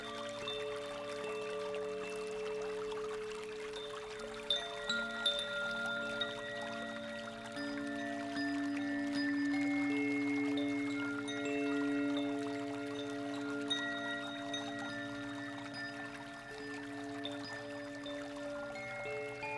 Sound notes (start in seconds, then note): 2.4 bells lightly chiming; 2.4 water babbling